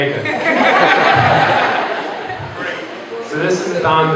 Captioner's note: laughter